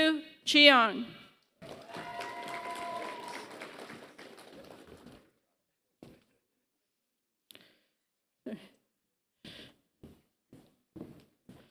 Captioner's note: applause